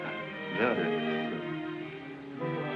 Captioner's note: muttering